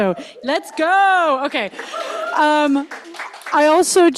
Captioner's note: audience cheers and applauds